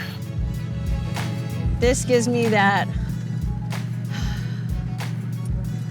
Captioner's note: sighs heavily